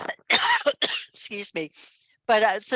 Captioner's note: coughs